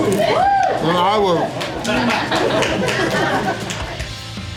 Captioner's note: crowd laughter